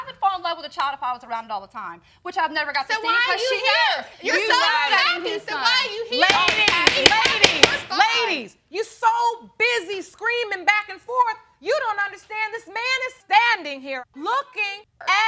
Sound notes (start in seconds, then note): 6.2 gavel pounding